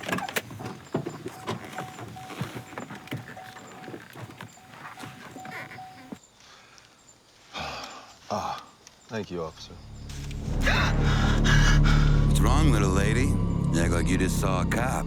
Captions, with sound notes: Thank you, officer. (gasps) What's wrong little lady? You act like you just saw a cop.